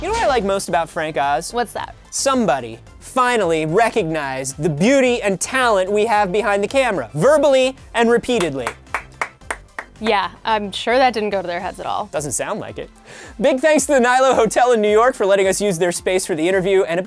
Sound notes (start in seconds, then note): 8.3 clapping off-camera